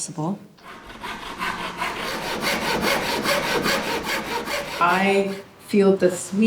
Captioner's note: sawing sound